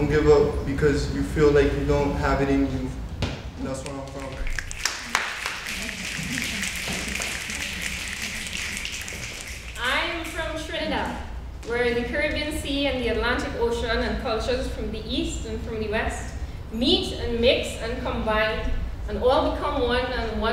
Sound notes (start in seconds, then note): 4.7 snapping